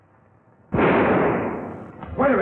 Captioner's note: gunshot